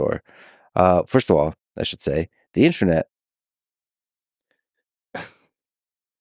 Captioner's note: laughs